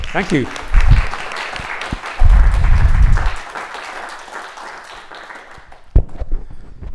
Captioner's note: audience clapping